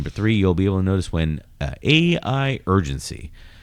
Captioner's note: uh